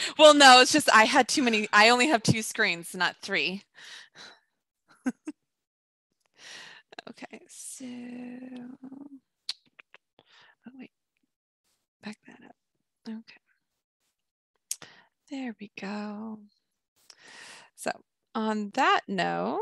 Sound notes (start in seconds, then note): 5.0 chuckles